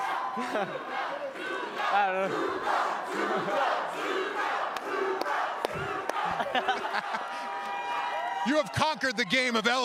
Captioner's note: cheering